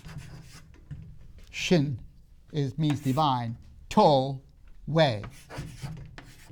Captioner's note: marker clunks on the board